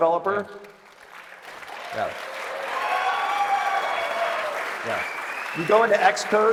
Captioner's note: applause